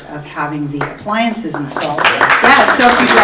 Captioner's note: audience applauding